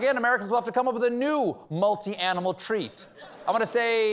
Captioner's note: laughter